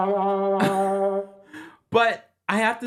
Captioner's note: Kempire chuckles